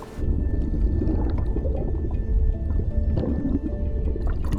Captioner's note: water splashing; bubbles gurgling